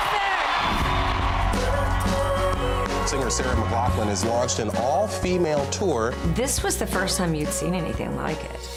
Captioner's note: cheers and Applause